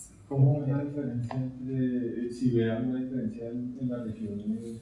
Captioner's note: speaking in Spanish